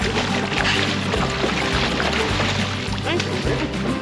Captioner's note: fish splashing